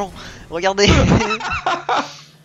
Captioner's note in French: rires